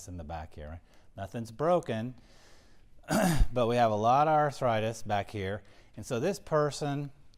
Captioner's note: cough